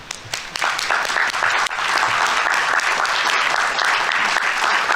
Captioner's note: audience applauding